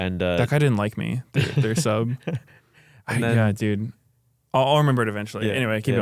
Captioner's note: laughs